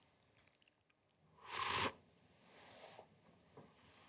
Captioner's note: slurping